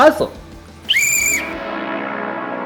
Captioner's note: whistle blows